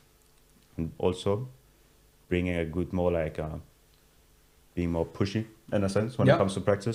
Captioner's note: all laugh